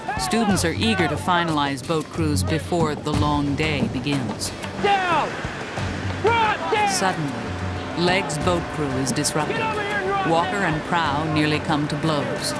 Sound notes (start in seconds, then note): 7.9 voiceover